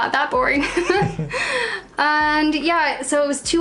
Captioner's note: laughs